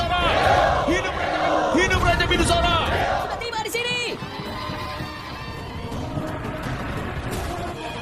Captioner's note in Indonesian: bersorak